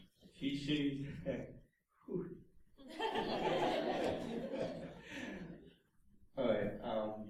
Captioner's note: laughter